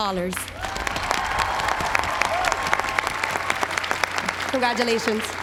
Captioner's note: applause